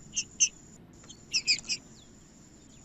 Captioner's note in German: trinca ferro cantando